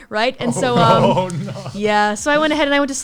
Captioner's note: murmurs